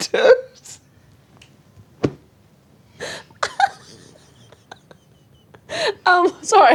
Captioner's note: laughing